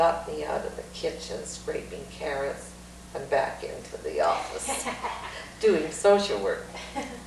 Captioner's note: laughter; laughs